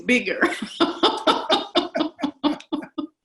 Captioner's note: laughter